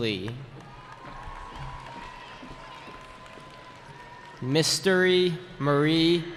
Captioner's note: cheering